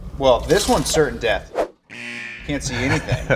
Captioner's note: horn blaring